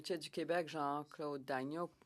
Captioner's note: speaking French